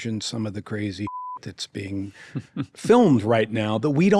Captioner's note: audio beeps